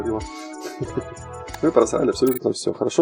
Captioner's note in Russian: смех